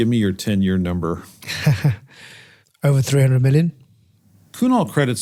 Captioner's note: laugh